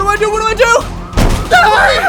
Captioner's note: door breaks open